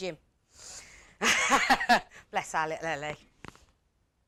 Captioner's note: laughs